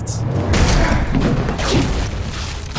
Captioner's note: building explosion booming; door thudding